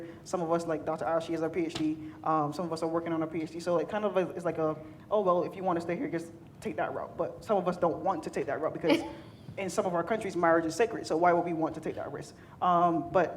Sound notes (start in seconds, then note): 8.8 laughing